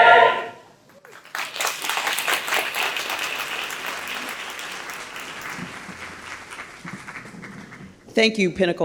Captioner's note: applause